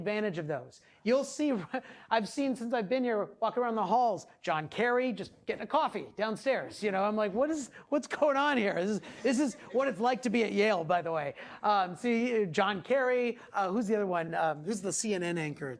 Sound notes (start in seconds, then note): 9.1 class laughing